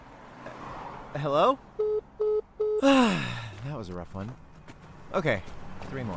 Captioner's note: sighs